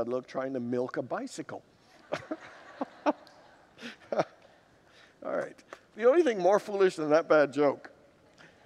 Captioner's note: laughs with congregants